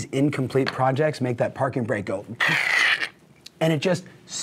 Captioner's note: screeches